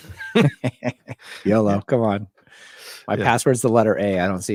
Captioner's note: both laugh